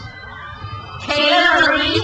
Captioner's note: crowd cheers